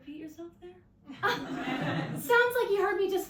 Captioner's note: audience laughs